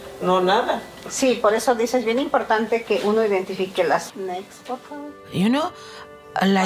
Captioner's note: speaking in Spanish